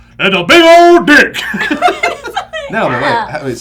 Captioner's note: deep, booming voice